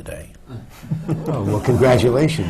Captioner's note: murmurs from the audience